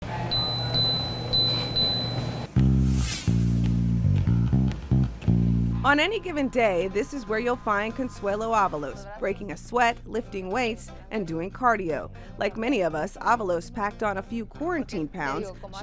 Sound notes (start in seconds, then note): 0.3 treadmill beeping; 2.5 upbeat music